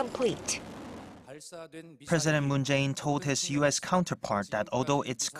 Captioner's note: Korean